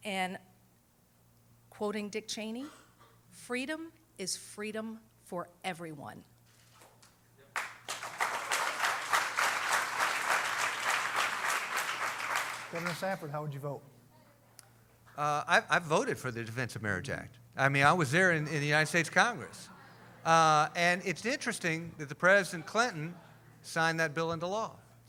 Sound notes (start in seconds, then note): 7.5 applause